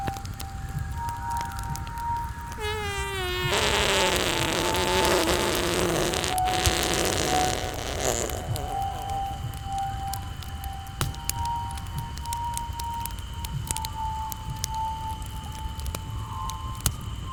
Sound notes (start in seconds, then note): 2.6 ape farting; 10.1 quiet music continues